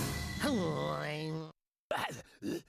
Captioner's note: grumbles; grunting